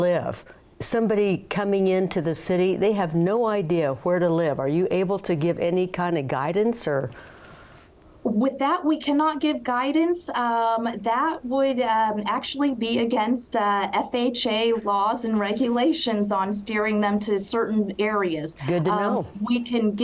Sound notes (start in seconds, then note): none